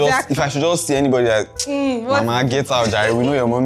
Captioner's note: laughs